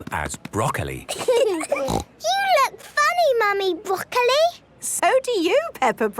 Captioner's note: laughing, snort